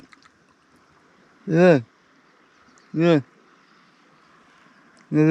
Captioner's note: disgusted groaning